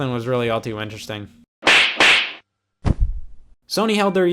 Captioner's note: slaps